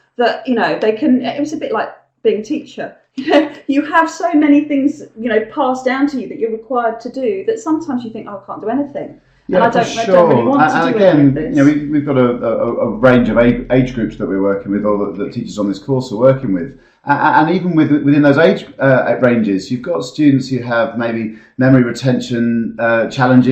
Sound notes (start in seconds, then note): 3.2 laugh